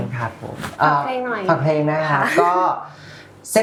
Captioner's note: laughs